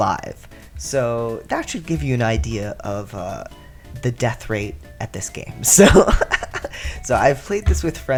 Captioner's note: laugh